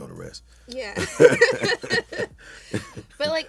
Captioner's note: laughs